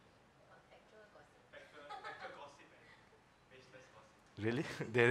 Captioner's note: faintly speaking